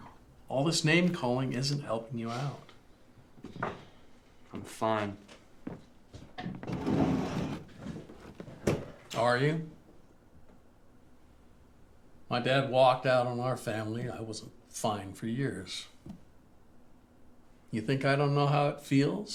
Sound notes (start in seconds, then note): none